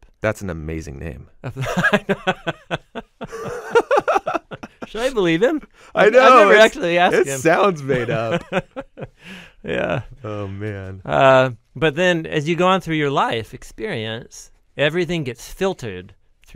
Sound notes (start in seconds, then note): 3.1 both chuckle; 7.9 chuckles